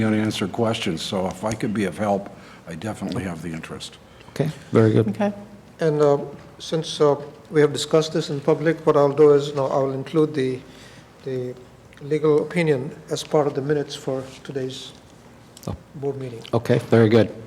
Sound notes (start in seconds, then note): none